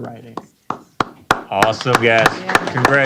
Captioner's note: applause